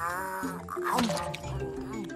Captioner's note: nom